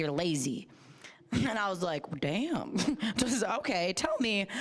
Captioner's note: chuckling